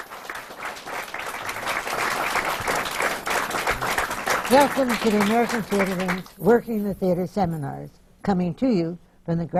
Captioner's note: applause